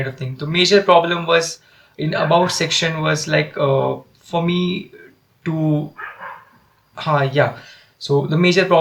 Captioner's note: dogs noise